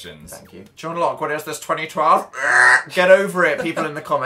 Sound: strange "triggered" sound

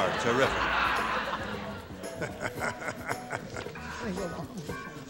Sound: laughter

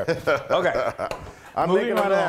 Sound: laugh

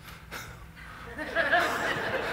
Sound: laughter

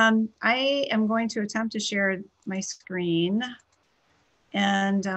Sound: clicking

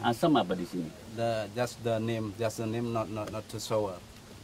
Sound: chef speaking

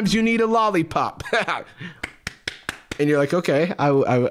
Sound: clapping

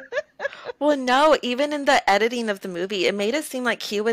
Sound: laughter

